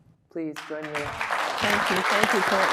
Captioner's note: audience applauding